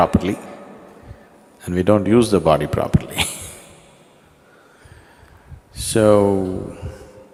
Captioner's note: laughs